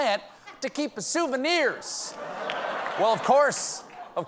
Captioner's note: laughter